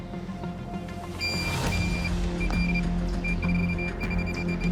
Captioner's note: beeping fast